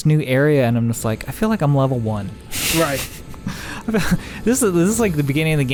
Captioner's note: laughs